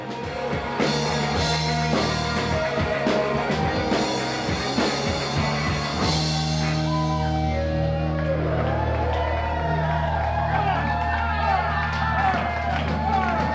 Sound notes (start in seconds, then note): 0.2 upbeat rock music; 8.2 audience cheering